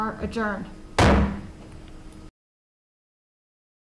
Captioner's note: gavel pounds